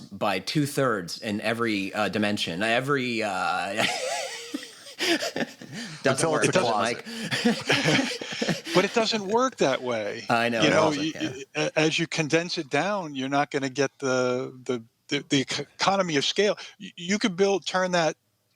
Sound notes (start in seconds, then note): 7.0 laughter